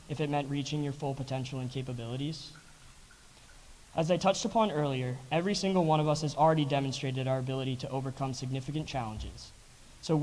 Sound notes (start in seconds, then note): none